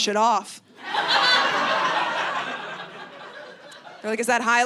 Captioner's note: audience laughing